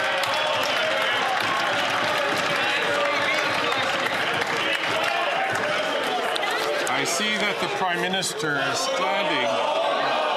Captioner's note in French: voix de l'interprète